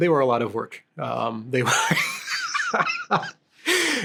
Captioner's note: laughs